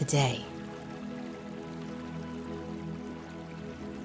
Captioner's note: water trickling; gentle music